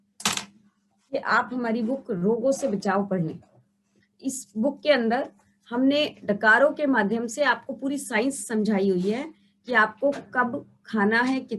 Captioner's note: Hindi